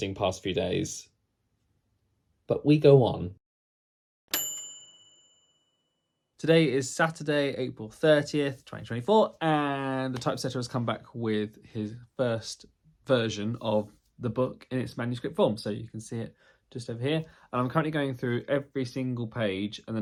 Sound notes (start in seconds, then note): 4.3 bright bell dinging